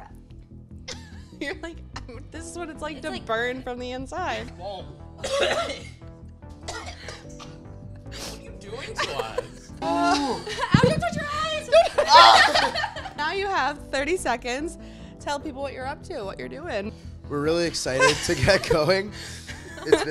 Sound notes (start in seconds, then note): 5.2 coughing; 11.9 screams